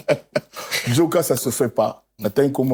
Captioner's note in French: rires